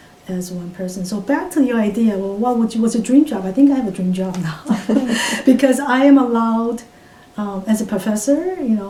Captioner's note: all laugh